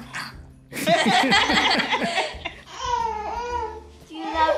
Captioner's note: everyone laughing